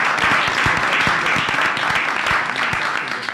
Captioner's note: applause